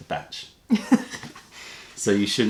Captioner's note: laughter